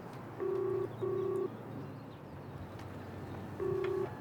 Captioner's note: phone ringing